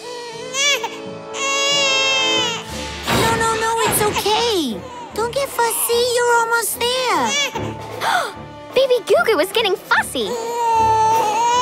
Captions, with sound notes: [baby crying] No, no, no, it's okay. Don't get fussy. You're almost there. [gasping] Baby Goo Goo is getting fussy. [baby crying]